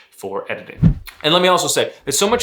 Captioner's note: air whooshing